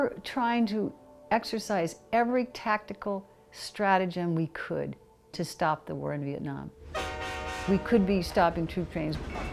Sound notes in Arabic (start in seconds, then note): 6.8 نفخ بوق القطار